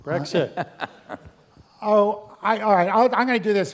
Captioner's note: laugh